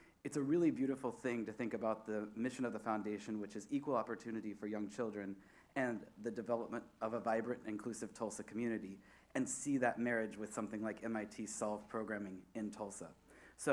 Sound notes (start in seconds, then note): none